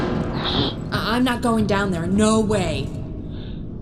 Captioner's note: exhales